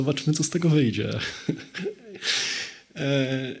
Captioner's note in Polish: śmiech